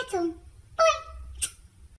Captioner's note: smooch